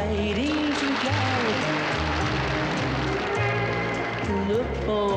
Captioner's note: audience applauds